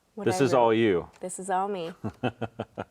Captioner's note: laughs